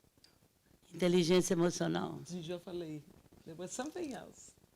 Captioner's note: speaking Portuguese